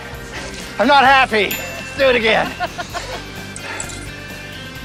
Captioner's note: laughs